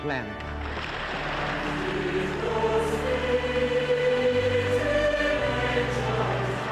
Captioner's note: applause